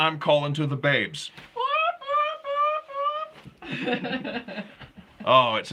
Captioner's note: imitating bird